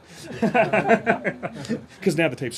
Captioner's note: laughs